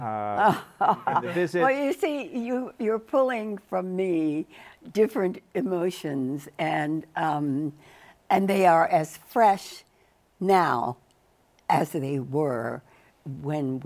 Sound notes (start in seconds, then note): 2.6 laughs